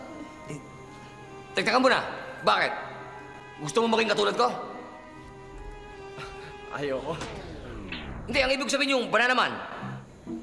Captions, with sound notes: Hold on for a bit, why? Do you want to be like me? [chuckles] I don’t want to. No, I mean, being Bananaman.